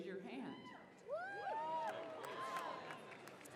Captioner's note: cheers